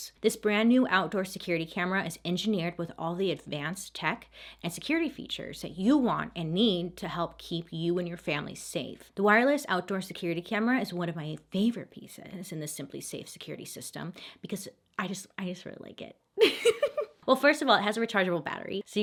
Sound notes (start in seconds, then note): 16.4 laughs